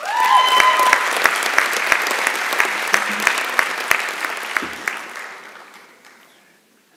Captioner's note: applause and Cheering